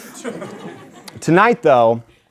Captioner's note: audience laughing lightly